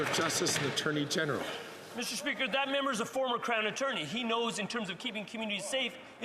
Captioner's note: some Applause